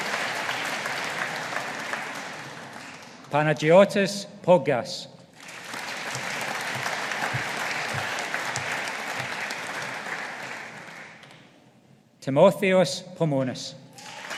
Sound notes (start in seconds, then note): 5.4 audience applauding; 14.0 audience applauding